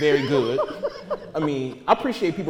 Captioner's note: laughter